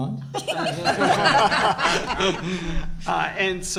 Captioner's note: group laughter